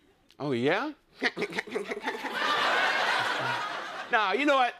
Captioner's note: laughing